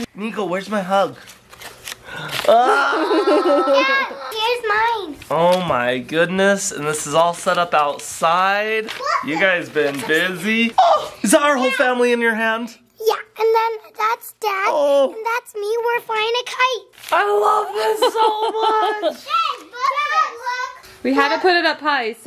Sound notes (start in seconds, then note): 2.4 exclaims; 2.5 laughs; 9.9 exclaims; 17.5 laughs